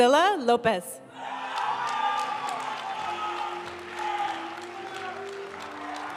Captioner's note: audience cheering and applauding; graduation music